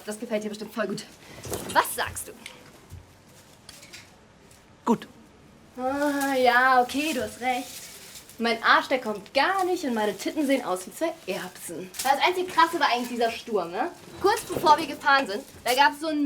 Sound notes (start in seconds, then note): 4.9 Phil speaking in foreign language; 5.8 Kat speaking in foreign language